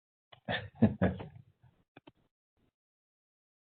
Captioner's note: laughing